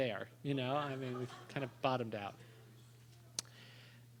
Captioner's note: laughter